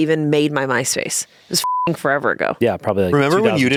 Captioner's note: beep